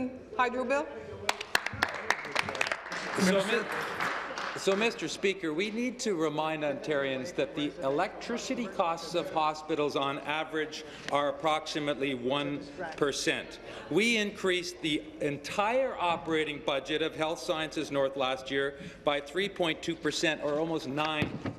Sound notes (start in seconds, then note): 6.1 applause